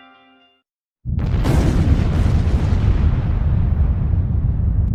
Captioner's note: explosión en auge